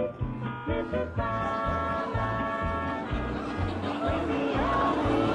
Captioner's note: car honking